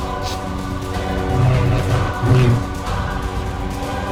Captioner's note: lightsaber swoosh